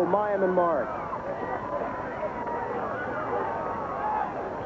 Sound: crowd cheering

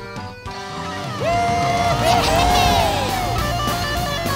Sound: cheering

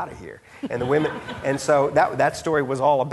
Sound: audience laughing

